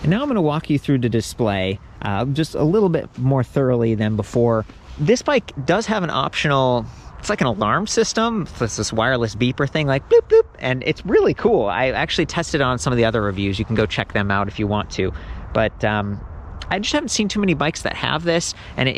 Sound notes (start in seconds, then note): 10.5 imitates beeping sounds